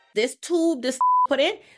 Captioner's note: beep